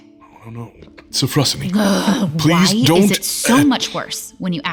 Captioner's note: panicking